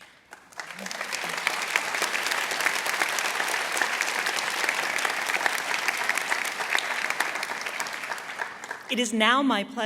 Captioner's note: applause